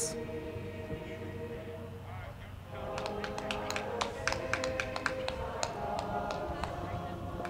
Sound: choral music; crowd clapping

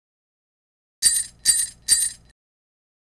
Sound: sound of sleigh bells

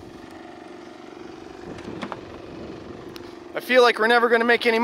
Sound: machine rumbles

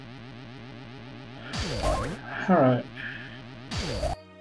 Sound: sighing

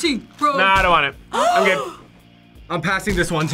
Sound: React gasps; both gasp

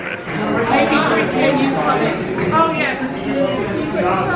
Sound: guests chattering loudly

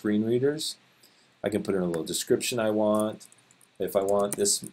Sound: typing

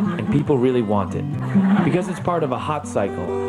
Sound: audience laughs

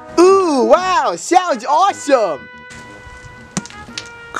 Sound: none

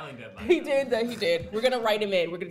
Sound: voiceover

